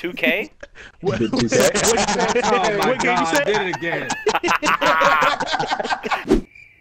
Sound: laughing

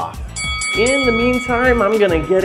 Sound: bell dings

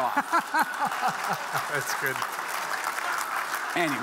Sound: audience laughing; audience applauding

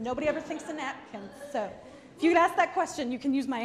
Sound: audience laughs

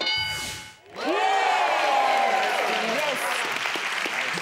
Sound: clapping

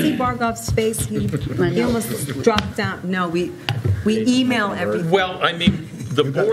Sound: laughter

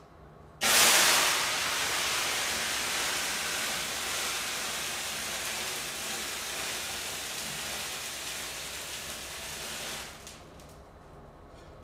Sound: loud Sizzling Noise

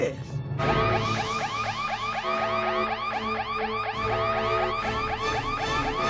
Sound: alarm sounding

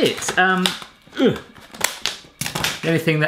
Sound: grunts

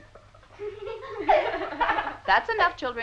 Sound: kids laughing

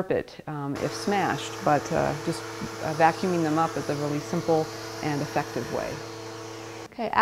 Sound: vacuum in use

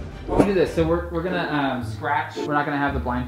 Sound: male Voice

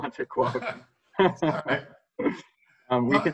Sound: laughter

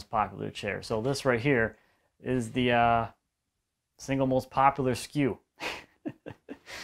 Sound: laughs

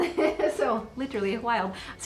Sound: laughing

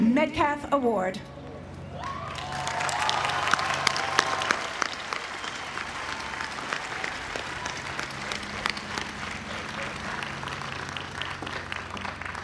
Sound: applause

